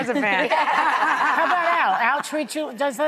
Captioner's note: laughing